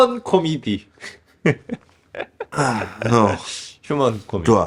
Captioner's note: laughter